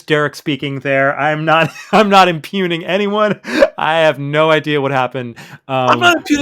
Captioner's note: laughs